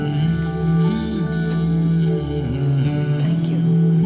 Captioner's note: Window closes